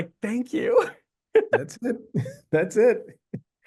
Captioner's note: both laughing